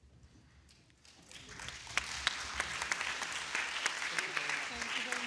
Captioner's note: attendees clapping